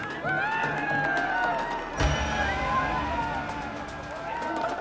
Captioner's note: crowd cheering